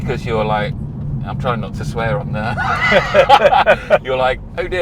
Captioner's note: both laugh